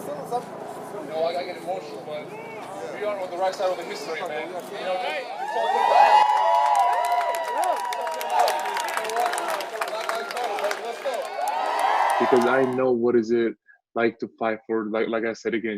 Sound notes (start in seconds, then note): 5.0 cheering